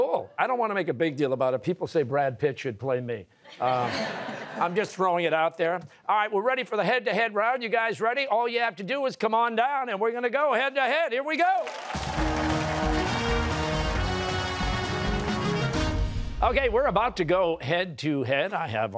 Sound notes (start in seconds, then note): 3.4 laughter; 11.5 cheers and applause